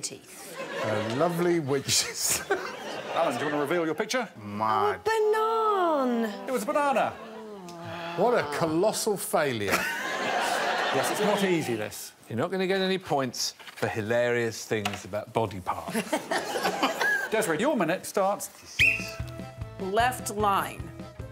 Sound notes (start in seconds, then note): 3.1 audience laughing; 4.8 laughs; 7.4 Morgana groaning; 9.6 audience laughing; 18.3 chuckling; 18.7 blows whistle